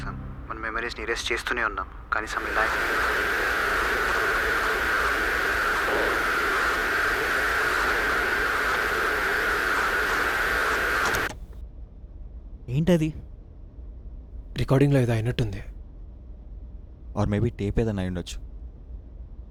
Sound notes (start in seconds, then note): 2.6 tape recorder glitches